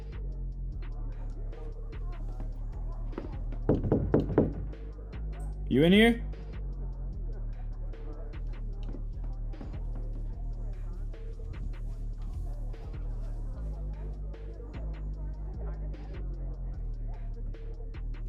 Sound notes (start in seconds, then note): 3.6 Alan knocking; 7.2 people chattering; 8.1 distant party music playing